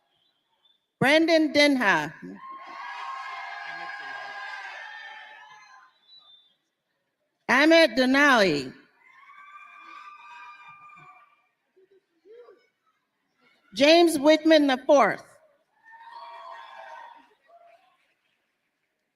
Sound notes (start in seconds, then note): 0.8 applause; 4.3 cheers and applause